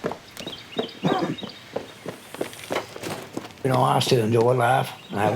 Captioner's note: birds chirping